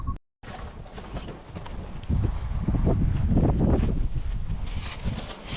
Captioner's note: wind